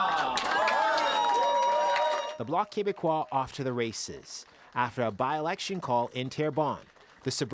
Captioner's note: applause